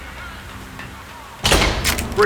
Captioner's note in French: Bavardage policier. Des pas courent vers la pièce